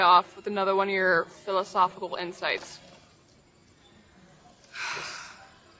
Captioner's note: sighs